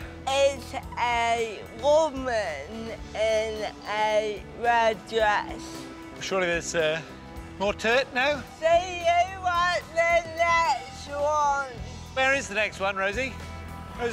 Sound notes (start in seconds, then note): none